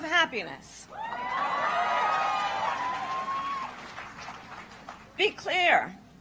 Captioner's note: applause